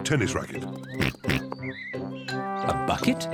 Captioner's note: oinks